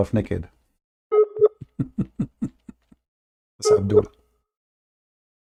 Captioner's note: Ketawa